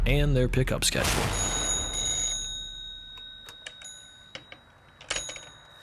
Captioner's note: phone ringing